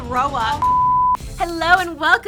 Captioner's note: beeping sound